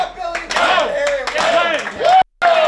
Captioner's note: players clapping